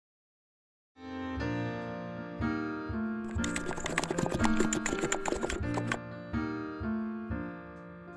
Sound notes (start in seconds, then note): 3.2 keyboard cluttering